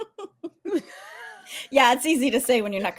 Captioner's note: giggles